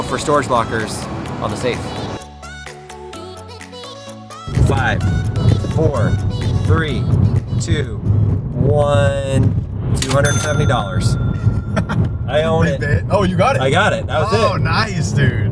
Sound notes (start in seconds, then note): 2.3 upbeat music; 11.7 driver laughs